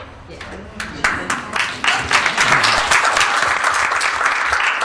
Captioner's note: applause